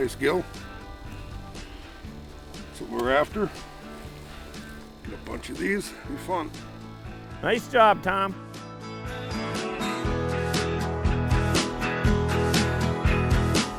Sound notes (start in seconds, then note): 7.7 voiceover